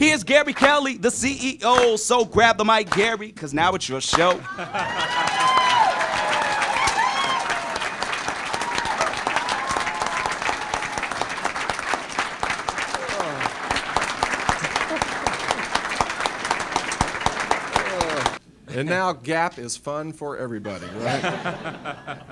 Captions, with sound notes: Here's Gary Kelly, the CEO so grab the mic, Gary, 'cause now it's your show. [Cheering, Applause] and now GAAP is fun for everybody, right?